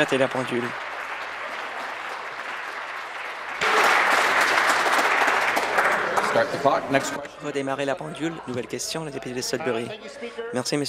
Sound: applause

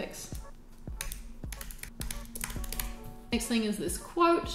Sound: keyboard clicking

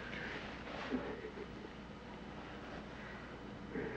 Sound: Peter crying

